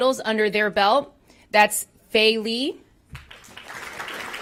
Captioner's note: applause